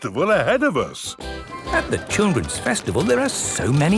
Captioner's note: festival buzz and music